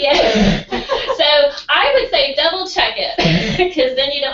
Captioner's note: laugh